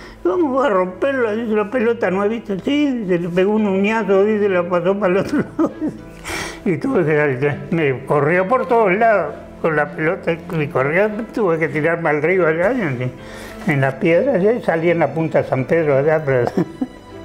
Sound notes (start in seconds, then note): 5.2 he laughs